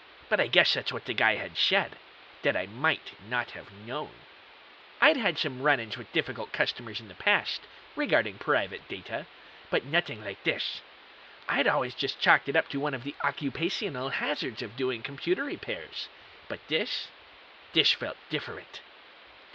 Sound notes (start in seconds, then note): none